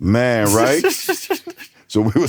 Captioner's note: snickers